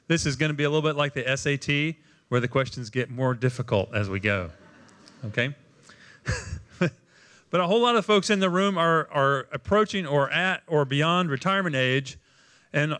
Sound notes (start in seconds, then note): 6.2 laughter